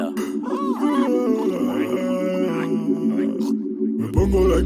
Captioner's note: yawns